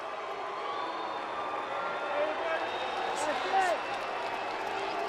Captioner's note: cheers and boos